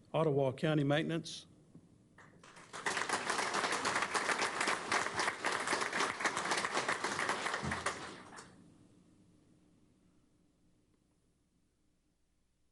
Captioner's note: applause